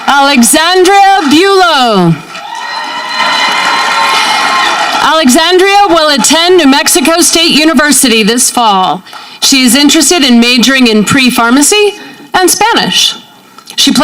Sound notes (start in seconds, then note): 2.0 audience clapping